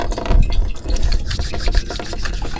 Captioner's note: water running